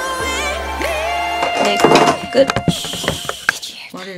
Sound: thud

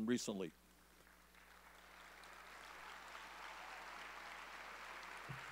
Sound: audience applauding

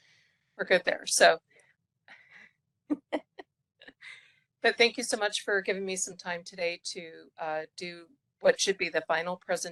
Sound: laugh

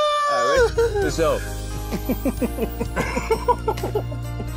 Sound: both laughing

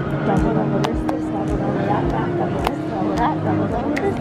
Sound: clapping

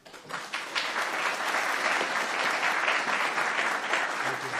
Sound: audience applauding

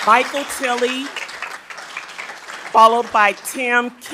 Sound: attendees applauding

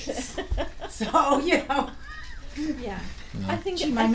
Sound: laughing

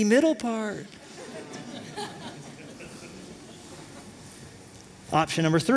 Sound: laughter

